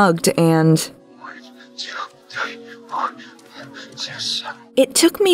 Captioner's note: Luke mumbling